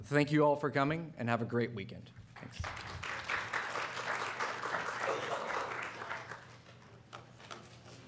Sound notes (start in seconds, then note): 2.4 applause